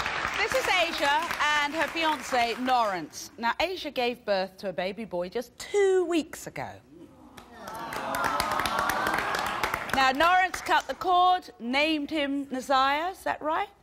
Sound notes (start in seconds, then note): 0.0 applause; 7.5 cheering; 7.6 applause